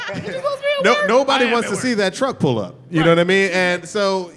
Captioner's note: laughter